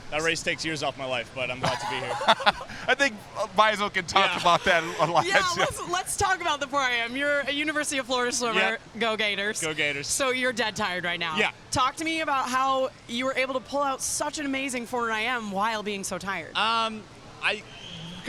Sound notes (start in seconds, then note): 1.6 laughs